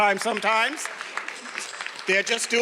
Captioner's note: everyone applauding